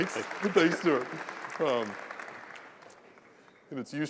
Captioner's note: laugh; applause